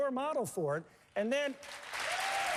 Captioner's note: applause